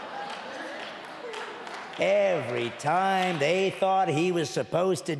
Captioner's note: audience laughing and clapping